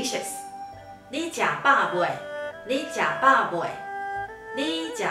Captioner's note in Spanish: en taiwanes